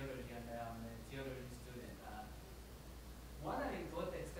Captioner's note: audience member speaks quickly